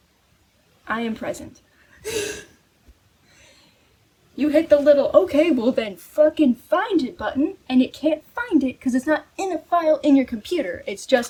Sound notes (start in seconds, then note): 2.0 laughing